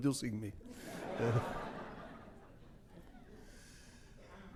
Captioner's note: audience laughs